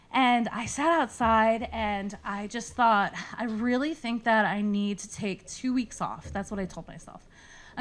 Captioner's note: none